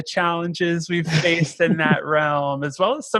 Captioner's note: chuckling